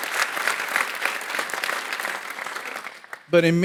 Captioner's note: audience applauding